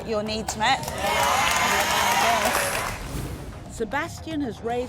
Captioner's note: audience applauding and cheering